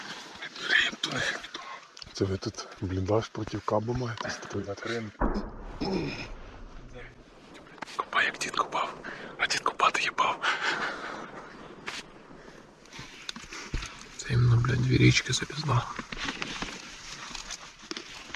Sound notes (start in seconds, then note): 5.2 sound of artillery; 9.7 laughter; 15.9 steps in the woods sound